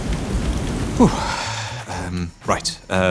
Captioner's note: exhales